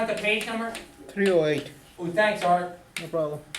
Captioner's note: voiceover; voiceover